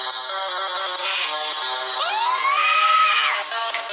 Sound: screams

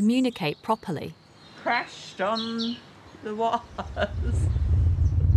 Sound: laughs

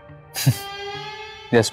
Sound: chuckling

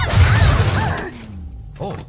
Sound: Alex and Sam groan; loud thud

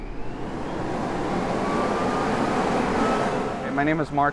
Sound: vacuum blowing

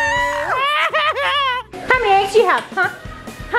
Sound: man laughs

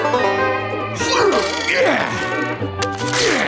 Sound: grunting

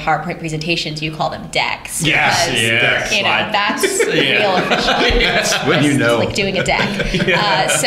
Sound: laughter

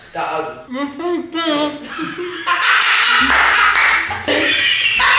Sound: everyone laughs

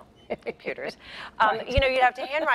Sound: laughs

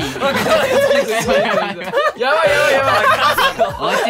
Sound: laughs

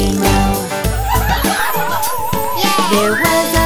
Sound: playful whistling

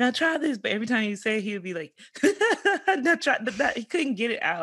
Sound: laughs

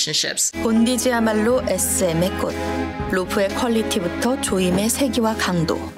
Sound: speaking Korean

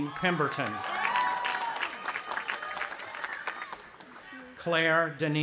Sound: audience applauding and cheering

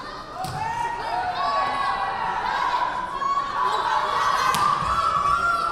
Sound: crowd cheering

